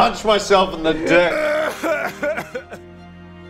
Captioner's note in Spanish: llora abiertamente